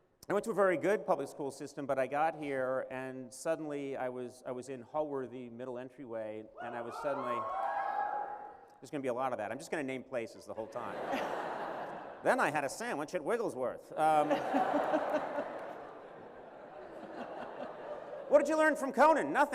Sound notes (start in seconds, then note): 6.6 cheering; 10.6 laughter; 14.0 laughter